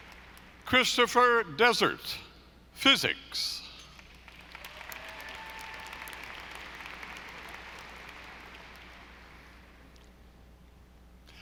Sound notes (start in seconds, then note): 4.2 audience applauding